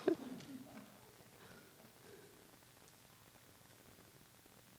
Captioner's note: laughter